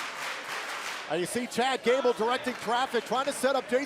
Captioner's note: crowd cheering